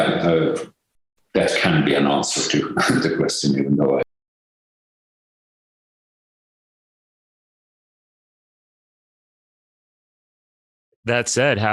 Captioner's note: audio cuts out